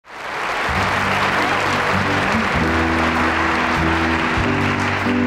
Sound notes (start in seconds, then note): 0.0 audience applauding; 2.0 slow piano music